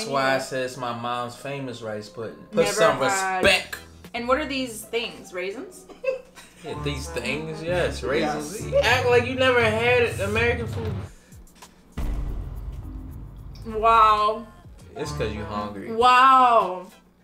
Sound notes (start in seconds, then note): 5.9 chuckles; 6.5 laughs; 11.9 suspenseful bang